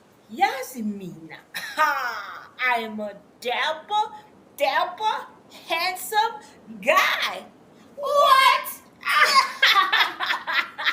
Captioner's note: bursts out laughing